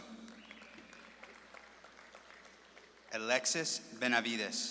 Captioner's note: audience claps and cheers